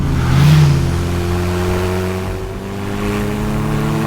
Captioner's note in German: spannende Musik; Motor brüllt